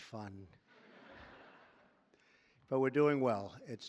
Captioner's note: laughter